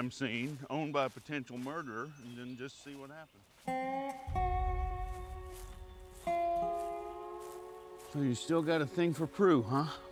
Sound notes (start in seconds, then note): 3.5 slow country music; 5.3 footsteps